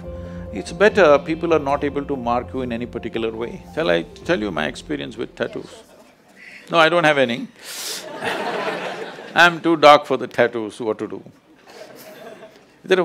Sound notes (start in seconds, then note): 8.0 laughter; 11.8 laughs